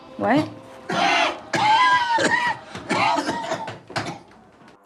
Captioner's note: hacking cough